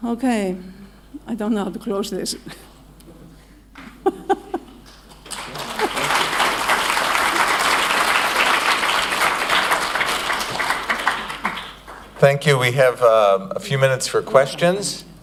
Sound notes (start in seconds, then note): 4.8 applause